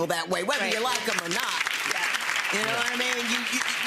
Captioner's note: audience applauds